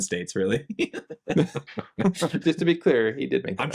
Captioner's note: laughing